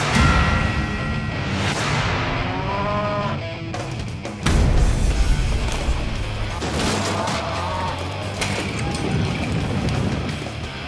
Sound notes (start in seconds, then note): 4.4 gunshot; 6.4 crash; 8.4 crash